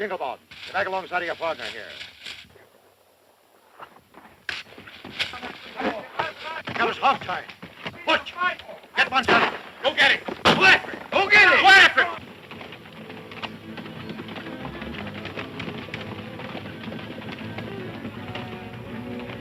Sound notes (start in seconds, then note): 4.4 smacks; 10.4 fires gun; 14.2 energetic orchestral music; 14.2 galloping hooves